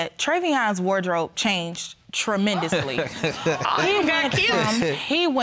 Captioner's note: chuckles